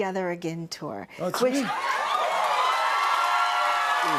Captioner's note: cheers and applause